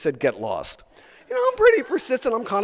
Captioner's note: audience laughs